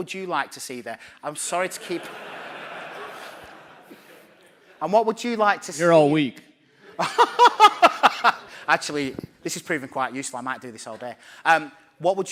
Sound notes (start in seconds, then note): 7.1 laughing